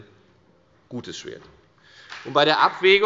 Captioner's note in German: Beifall bei der FDP